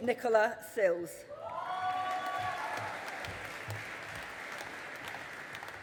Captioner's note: audience applauding